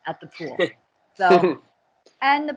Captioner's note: chuckles